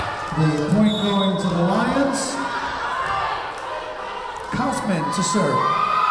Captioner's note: whistle blowing